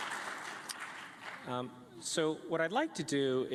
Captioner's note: applause